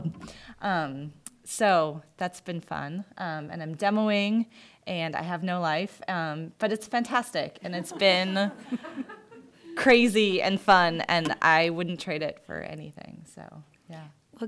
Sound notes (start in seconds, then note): 7.7 laughter